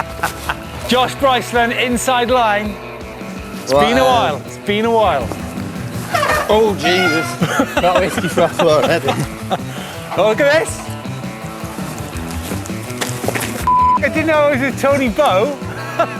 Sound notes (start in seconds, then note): 6.5 bike screetches